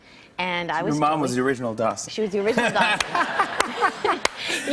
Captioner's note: laughter